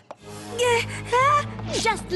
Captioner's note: frightened gasps